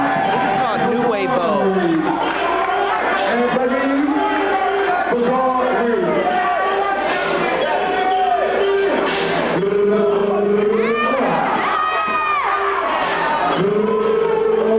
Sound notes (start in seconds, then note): 2.2 commentator speaking; 2.2 crowd cheering; 12.2 commentator speaking; 12.2 crowd cheering